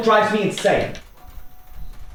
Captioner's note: glasses clink